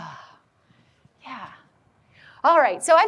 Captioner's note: sighs